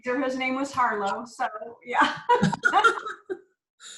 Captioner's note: laughs